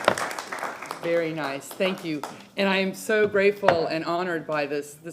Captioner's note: applause